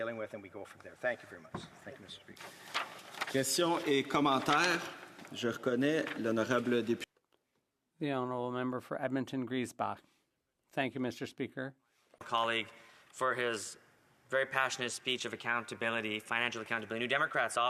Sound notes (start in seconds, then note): 9.6 speaking French